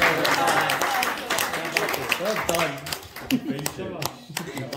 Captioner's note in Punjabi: ਤਾੜੀਆਂ